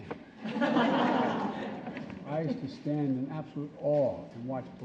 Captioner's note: laughter